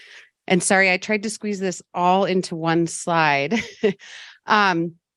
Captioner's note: laughs